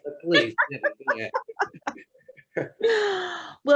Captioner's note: laughing